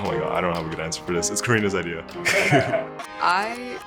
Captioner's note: offscreen laughter